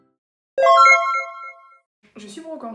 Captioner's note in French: Bruit de jeu vidéo